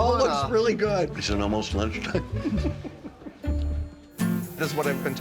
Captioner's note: laughing